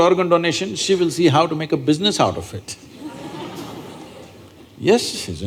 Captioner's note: laughter